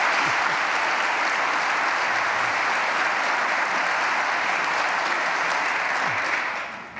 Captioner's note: applause